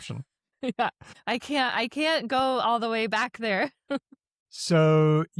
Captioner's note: chuckles